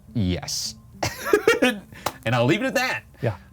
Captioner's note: laughs